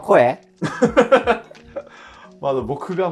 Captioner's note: laughing